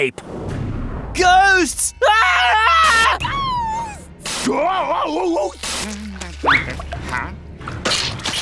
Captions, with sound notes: Ghosts! [screaming] Ghosts! Ghosts! Huh?